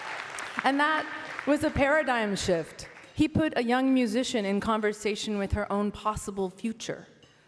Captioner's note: cheering and Applause